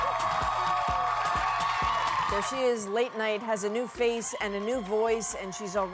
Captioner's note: applause; cheers and Applause